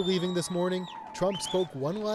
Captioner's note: cheers and Applause